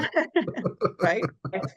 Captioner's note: laughing